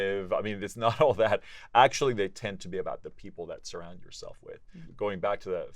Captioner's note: laugh